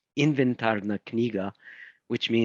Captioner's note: speaking in foreign language